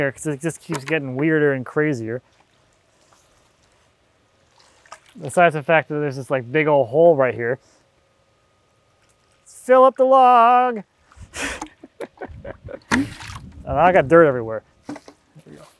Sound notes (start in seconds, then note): 4.4 water sloshes; 11.3 laughs